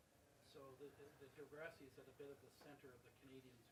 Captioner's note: voiceover